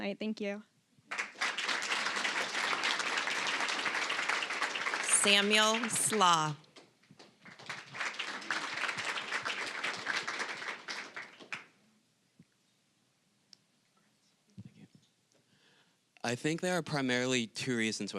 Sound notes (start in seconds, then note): 1.1 applause